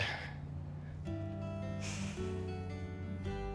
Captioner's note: sighs